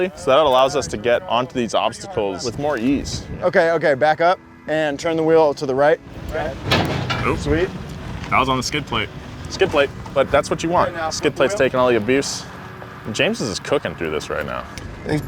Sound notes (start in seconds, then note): 6.1 metal banging